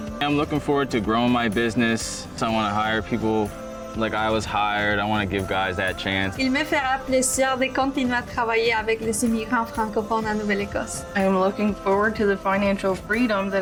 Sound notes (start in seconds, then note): 6.7 speaker speaks in foreign language